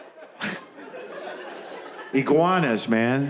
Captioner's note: chuckles